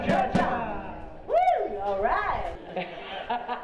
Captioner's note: drums beating; whoops; laughing